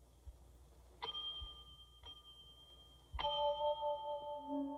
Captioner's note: bell Dinging